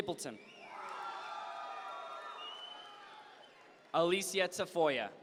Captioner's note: audience members cheer